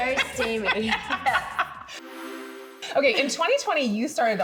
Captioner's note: laughing